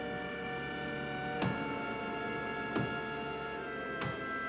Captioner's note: banging